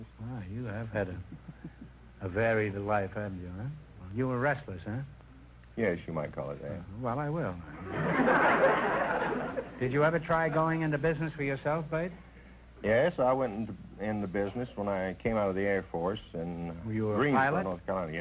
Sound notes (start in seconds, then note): 7.8 audience laughter